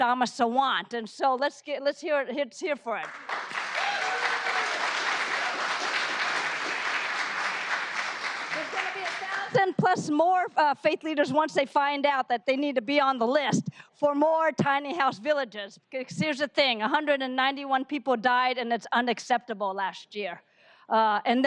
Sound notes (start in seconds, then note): 9.3 applause